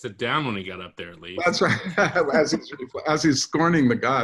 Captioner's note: laughs